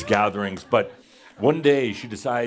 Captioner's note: some laughter